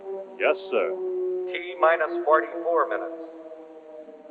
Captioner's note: man on PA